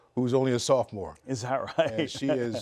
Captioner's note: laughs